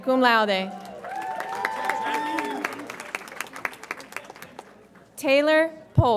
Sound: audience applauds and cheers

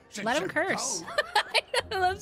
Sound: laughter

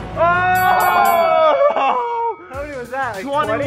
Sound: cheers

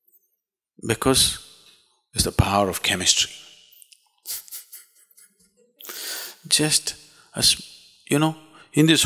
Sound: laughs

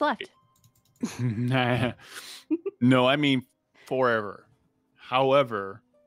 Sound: laughs

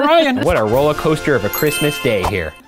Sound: celebratory horn sting; ding

